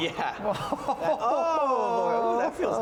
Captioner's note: laughing